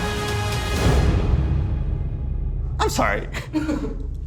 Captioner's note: bomb exploding